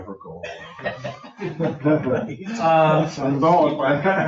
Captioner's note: people laughing